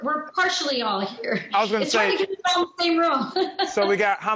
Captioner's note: murmurs